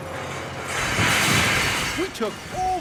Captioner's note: metal crashing